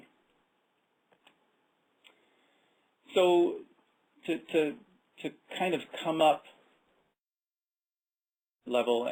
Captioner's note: audio out 07:46-07:48